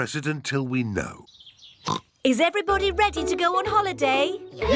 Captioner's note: oinks